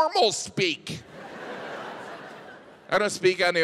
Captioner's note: audience laughs